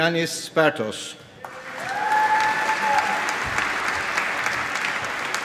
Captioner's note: applause